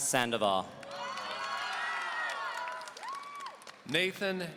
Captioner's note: audience cheering